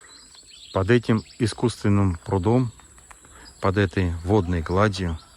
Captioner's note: birds chirping